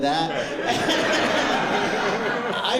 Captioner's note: laughter